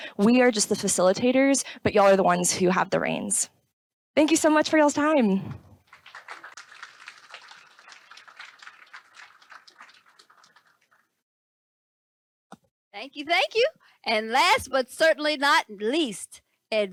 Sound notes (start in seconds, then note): 5.8 audience applauds